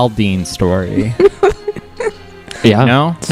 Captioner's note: laughs